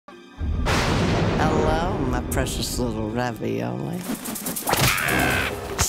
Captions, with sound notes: (thunder claps) - Hello my precious little ravioli. - Ah!